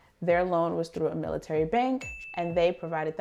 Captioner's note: chime rings